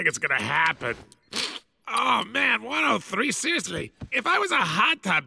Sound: sniffs

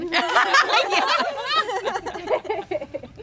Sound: laughing

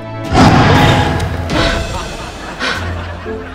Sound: roaring; gasping

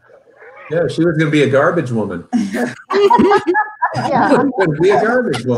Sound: members laugh

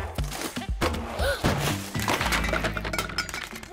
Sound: gasps

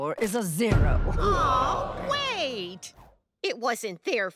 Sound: crowd groans

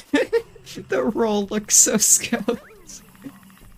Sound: still laughing

